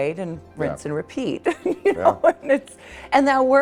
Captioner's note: laughing